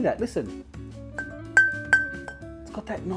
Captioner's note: metal pinging